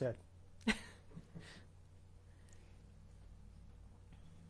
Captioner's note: laughing